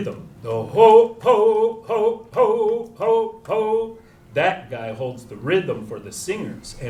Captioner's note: chanting